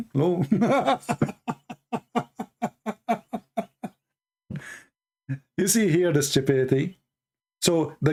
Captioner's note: Ketawa